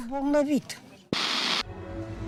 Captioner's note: static